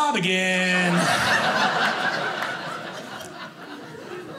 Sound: audience laughing

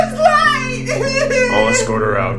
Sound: sobbing

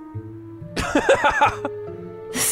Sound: laughs

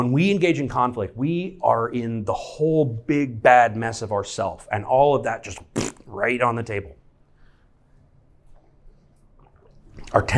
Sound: thppt

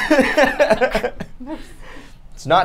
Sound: laughs

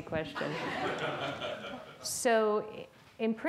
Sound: audience laughs

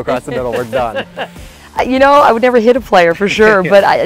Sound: laughs

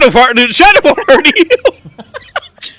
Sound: laughs

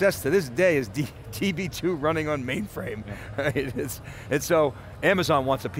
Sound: laughing

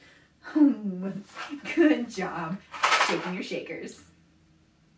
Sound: sigh

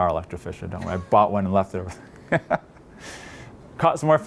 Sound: laughs

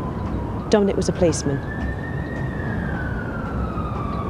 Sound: siren wailing

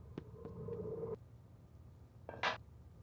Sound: footsteps

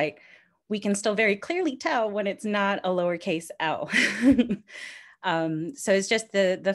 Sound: chuckles

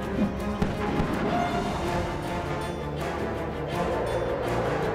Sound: shuttle engines

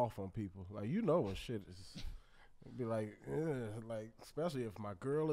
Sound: hems

